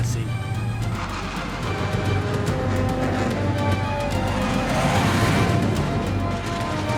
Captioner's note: intense, dramatic music; aircraft whooshing